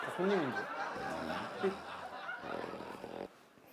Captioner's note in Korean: 드르렁